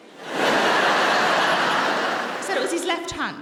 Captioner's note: audience laughing